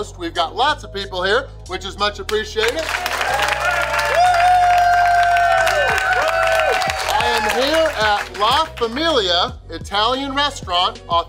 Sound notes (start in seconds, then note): 2.7 crowd cheering